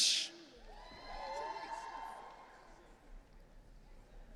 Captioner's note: audience cheering